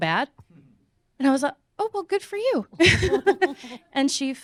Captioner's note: laughing